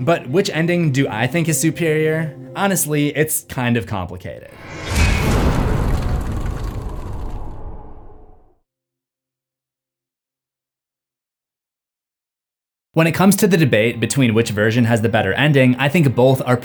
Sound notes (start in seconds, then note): 4.5 impact